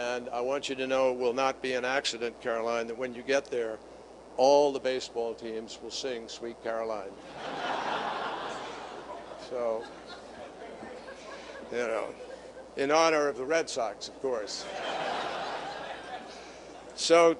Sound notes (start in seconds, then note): 10.1 laughter